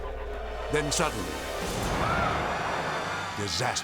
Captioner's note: dramatic whoosh